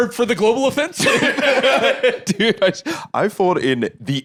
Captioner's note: both laughing